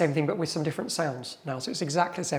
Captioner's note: none